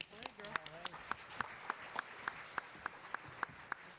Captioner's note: attendees applauding